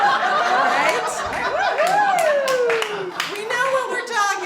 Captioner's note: laughter